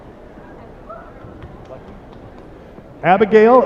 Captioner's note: applause